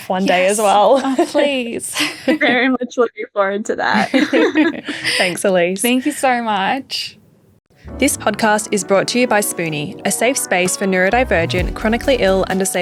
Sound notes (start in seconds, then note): 3.9 group laughing